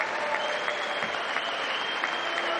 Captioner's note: applause